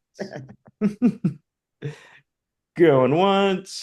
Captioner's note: laughing